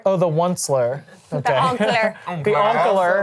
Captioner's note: laughs